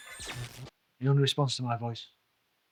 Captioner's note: Kellogg whirring